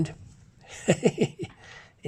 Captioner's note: laughs